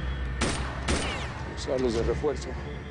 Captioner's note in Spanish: Disparos